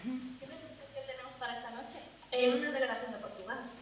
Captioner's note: Spanish